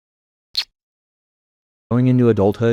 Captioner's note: smacks lips